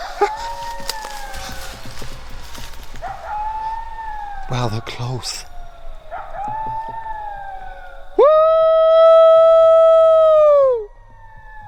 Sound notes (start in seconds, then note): 0.0 laughter; 1.2 distant howling; 5.6 distant howling; 11.2 distant howling